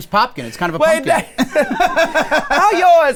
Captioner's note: guys laugh